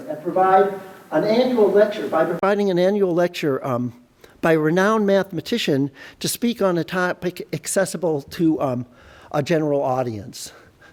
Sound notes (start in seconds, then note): none